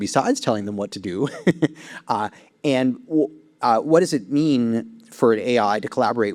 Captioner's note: chuckles